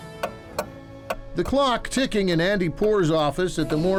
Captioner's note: clock ticking